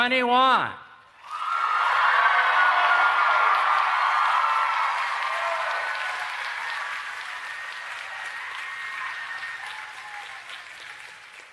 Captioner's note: applause and Cheering